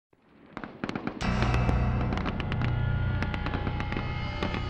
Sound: continuous gunfire; ominous instrumental music

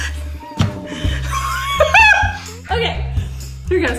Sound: laughs

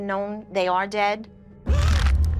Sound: gasps

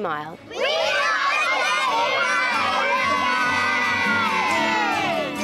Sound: cheering

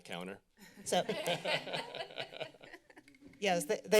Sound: laughing

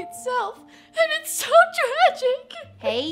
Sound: sobs

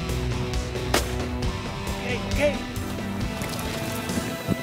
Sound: gunshot rings

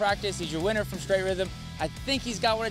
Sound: none

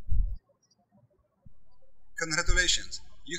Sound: birds chirping

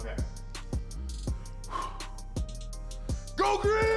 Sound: deep breath

